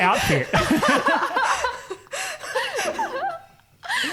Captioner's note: laughing